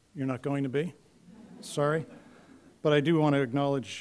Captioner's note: laughter